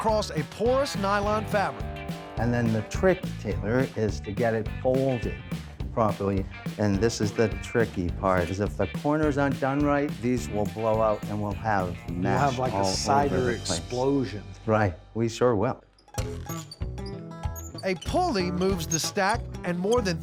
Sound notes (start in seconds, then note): 16.4 wheel squeaking